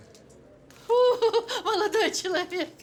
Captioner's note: chuckles